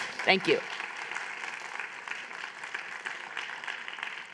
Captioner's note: applause